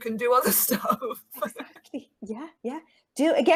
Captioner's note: laughing